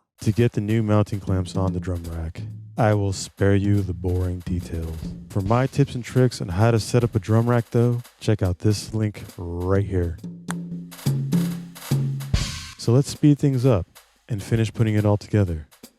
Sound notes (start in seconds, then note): 9.9 tongue click